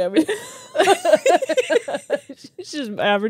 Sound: laugh

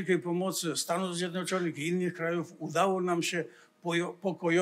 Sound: foreign language

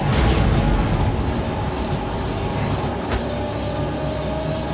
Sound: electricity sizzles; dramatic music

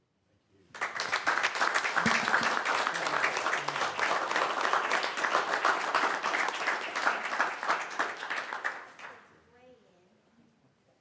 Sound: applause

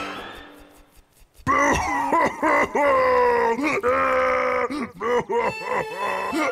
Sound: crying

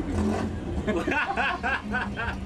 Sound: laughs

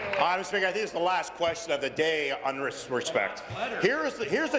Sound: applause

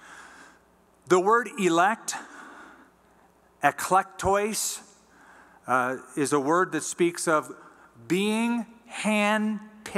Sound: non-english

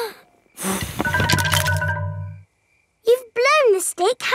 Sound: blowing

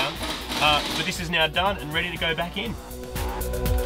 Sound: air powered rattle gun

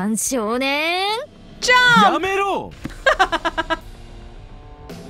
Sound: chuckles

